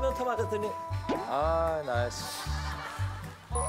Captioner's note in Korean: 푸흡